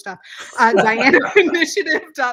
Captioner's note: laughs